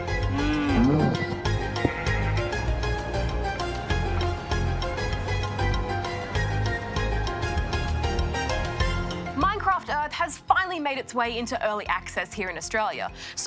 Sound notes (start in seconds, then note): 0.2 sheep bleat